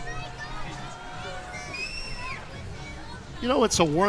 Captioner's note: crowd chattering